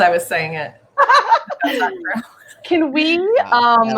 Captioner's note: laughs